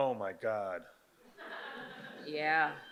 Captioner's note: audience laughs